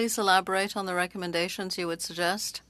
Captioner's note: speaking French